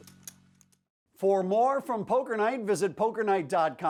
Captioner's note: voiceover